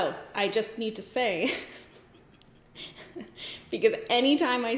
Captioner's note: giggles